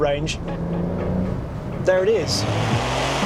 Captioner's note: engine revs